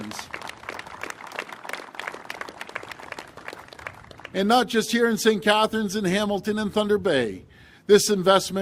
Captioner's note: applause